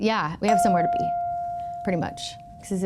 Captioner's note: chime pings